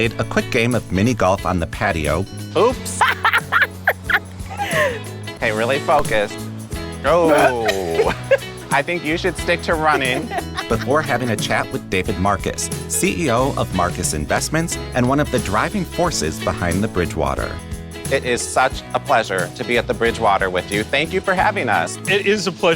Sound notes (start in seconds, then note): 5.5 laughs